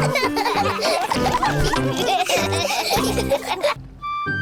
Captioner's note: all laughing